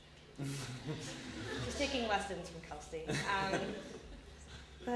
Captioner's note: laughter